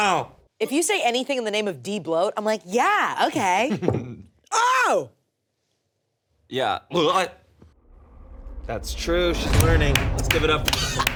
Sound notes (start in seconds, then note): 3.8 in alternate voice